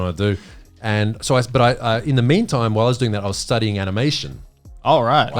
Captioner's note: speaking in foreign language